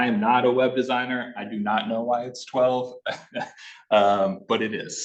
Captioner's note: laughing